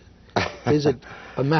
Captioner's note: laughter